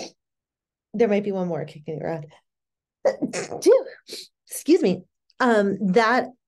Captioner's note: sneezing